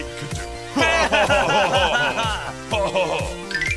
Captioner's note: pen and eraser laugh; eraser continues laughing